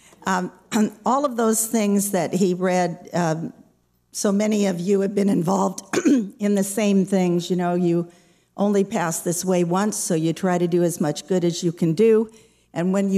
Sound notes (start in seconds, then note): 5.9 clears throat